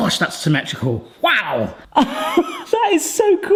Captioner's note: laughs